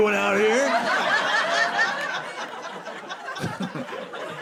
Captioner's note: audience laughing